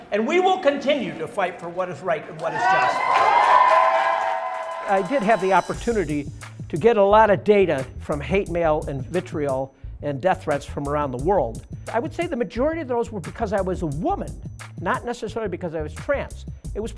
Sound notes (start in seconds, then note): 2.3 crowd cheering